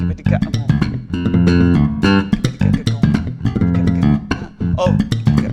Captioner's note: vocalizing bass beats